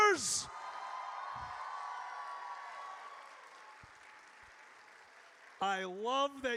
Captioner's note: audience cheers